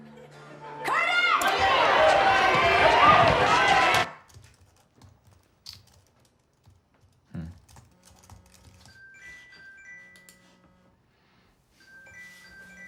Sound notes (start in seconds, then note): 0.8 screaming; 8.6 phone rings